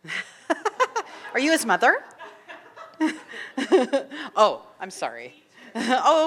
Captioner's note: laughing